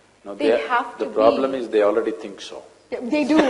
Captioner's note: laughter